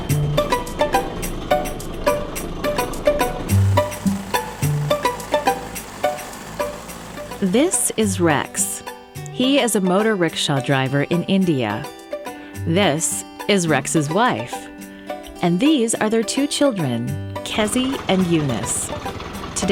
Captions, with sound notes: (Sound of a motor rickshaw engine) This is Rex. He is a motor rickshaw driver in India. This is Rex's wife. And these are their two children - Kezi and Eunice.